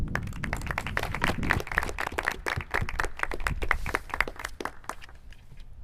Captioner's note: clapping